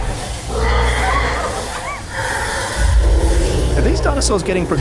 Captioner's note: dinosaur growling